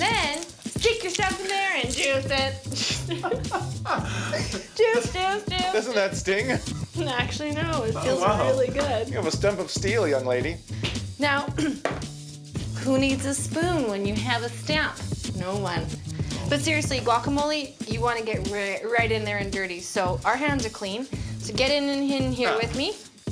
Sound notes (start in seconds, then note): 2.8 laughs; 2.8 laughter